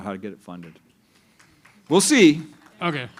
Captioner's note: applause